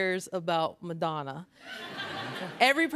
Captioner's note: laughter